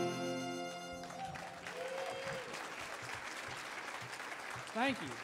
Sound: audience cheering

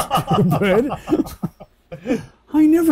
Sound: laughing

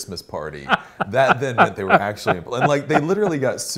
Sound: laughs

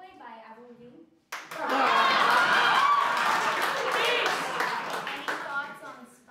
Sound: applaue and laughter

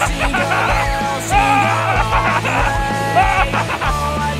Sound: laughing

